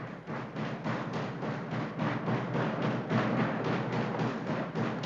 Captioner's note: thumping